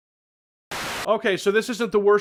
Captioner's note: TV buzzing sound